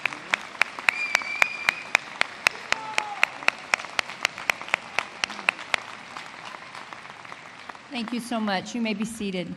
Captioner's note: applause